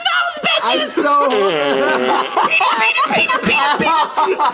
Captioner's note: fart noises